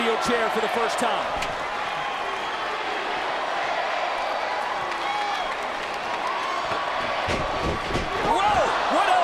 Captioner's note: applause